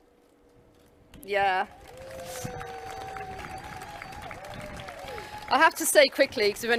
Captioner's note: clapping and cheering